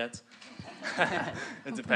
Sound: all laugh

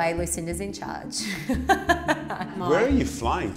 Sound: laughs

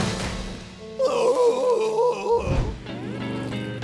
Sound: groaning

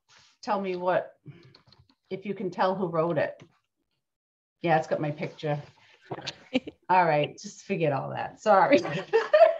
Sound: laughs

